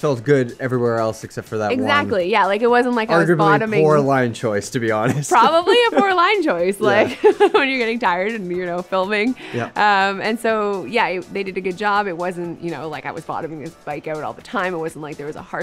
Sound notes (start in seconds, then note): 5.0 laughs